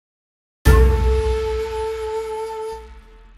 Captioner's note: gong